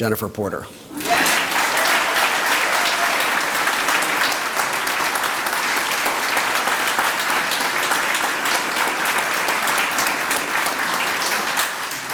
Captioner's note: applause